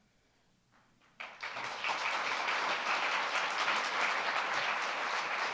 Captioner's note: audience applauding